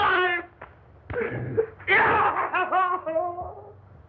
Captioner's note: shouts angrily